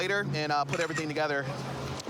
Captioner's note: camera app clicks